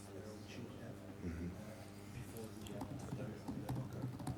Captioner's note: man speaks softly